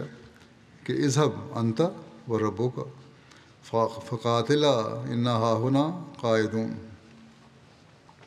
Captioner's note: Arabic